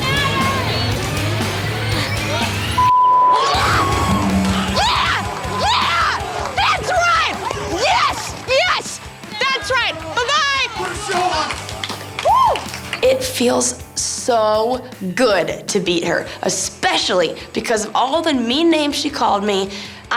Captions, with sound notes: (beep) - Yes! Yeah! Yeah! That's right! Yes! Yes! That's right. Bye-bye. It feels so good to beat her, especially because all the mean names she called me.